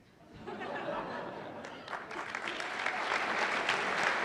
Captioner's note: laughter and applause